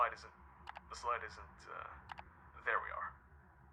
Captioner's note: clicking; clicking